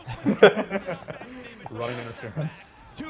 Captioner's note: laughter